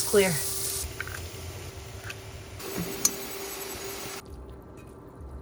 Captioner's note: food sizzling